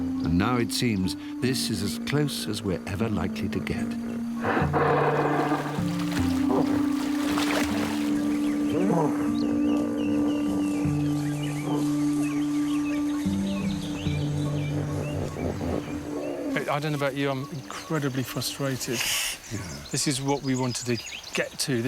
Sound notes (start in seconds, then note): 4.0 hippopotamus roars; 7.7 somber music; 11.0 birds chirping